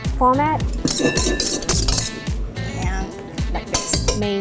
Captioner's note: metal scrapes